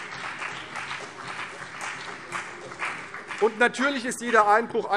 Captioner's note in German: Beifall CDU und BÜNDNIS 90/DIE GRÜNEN